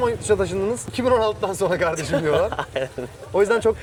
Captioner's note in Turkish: kahkaha